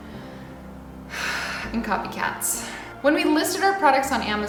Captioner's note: sighs